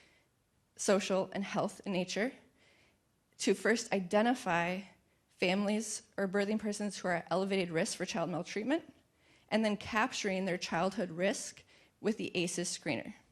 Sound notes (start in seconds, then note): none